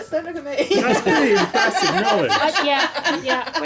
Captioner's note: laughing